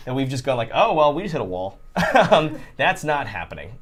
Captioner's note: laughs